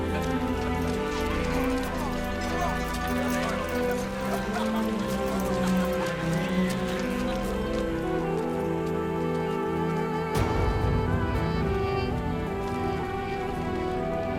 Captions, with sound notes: COME ON, COME ON, COME ON. (laughter)